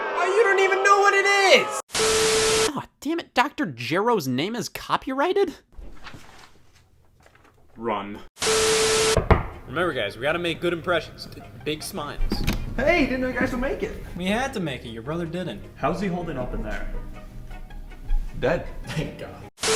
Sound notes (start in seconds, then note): 9.2 knock, knock